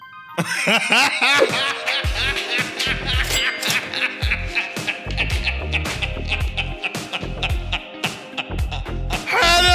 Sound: laughter

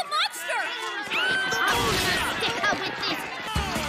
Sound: screams in Mary Shelley's Frankenstein

